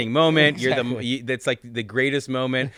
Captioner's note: giggles